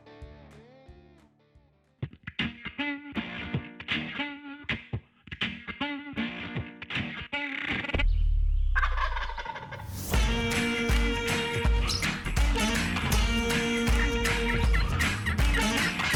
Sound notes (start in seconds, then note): 2.1 upbeat guitar music; 8.8 turkey gobbling